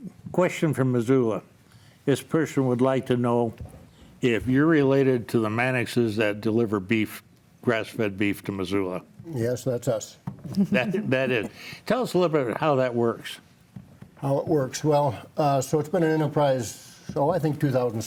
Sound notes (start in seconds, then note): 10.4 chuckles